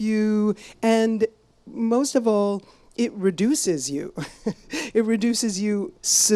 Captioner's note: chuckles